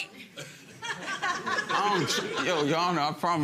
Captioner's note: audience laughing